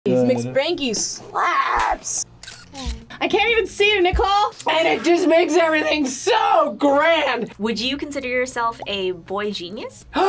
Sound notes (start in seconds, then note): 2.4 camera shutter clicks